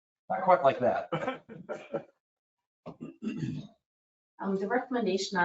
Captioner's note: people chuckle